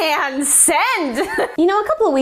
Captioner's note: giggle